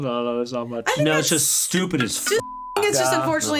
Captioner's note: beep